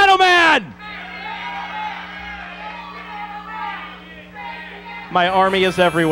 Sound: crowd

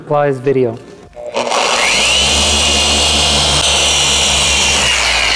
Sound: polishing machine buzzing

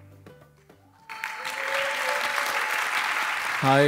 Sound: applause

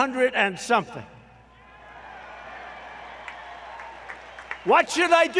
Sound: applause

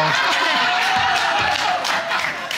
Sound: audience laughing

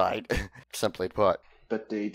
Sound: chuckles

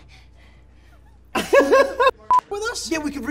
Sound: laughter

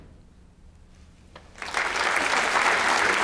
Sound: applause

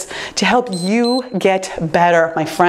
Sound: timer beeps

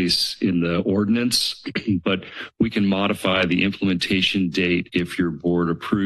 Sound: clears throat

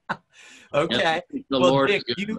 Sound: laughs

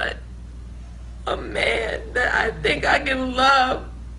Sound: sobbing

